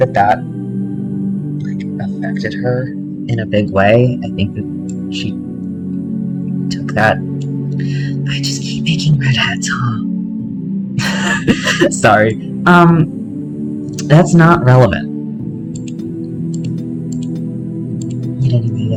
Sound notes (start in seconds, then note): 11.0 laughter